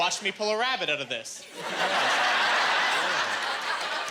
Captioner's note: laughing